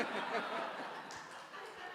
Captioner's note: audience laughing